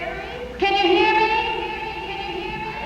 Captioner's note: echoes